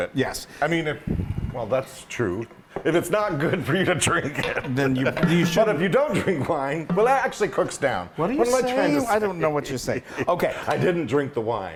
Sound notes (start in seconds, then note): 4.6 laugh